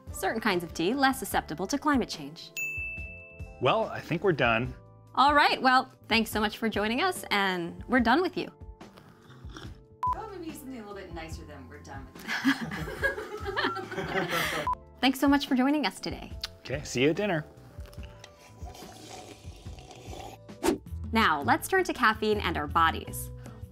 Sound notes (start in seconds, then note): 17.5 slurping coffee